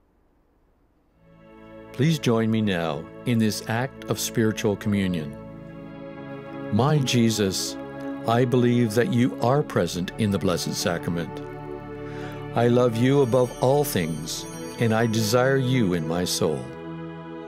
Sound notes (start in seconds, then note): 12.6 bells ringing